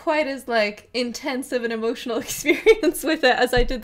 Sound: laughing

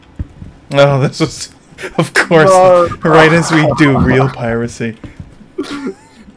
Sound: laugh

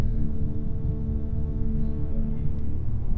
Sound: whispering

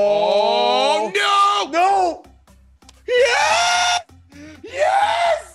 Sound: laugh

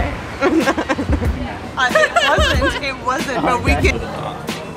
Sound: laughs

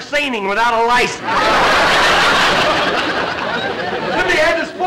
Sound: audience laughter

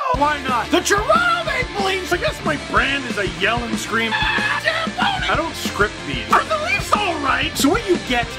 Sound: rock music plays throughout intro; screams

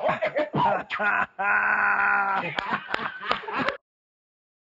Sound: laughs

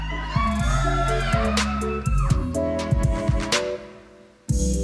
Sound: audience cheers

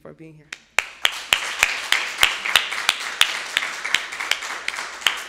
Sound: audience applauding

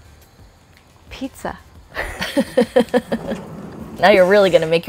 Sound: both laugh

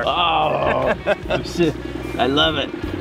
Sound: men laughing

